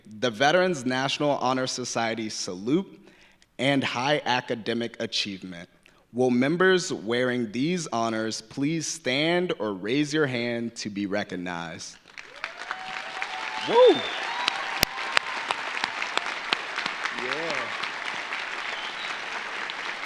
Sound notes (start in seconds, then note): 12.0 audience applauding; 12.2 audience cheering